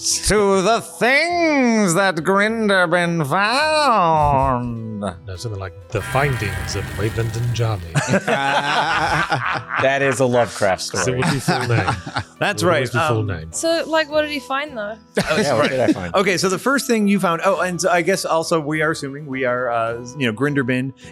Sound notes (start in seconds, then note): 7.9 laughing